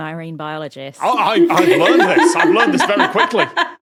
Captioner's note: laugh